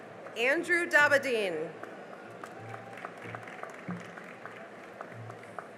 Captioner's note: cheering and applause